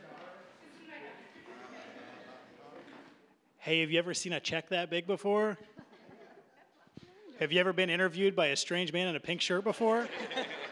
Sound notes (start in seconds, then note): 5.7 audience chuckling; 9.8 audience laughing